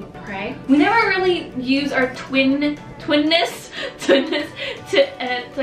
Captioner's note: laughing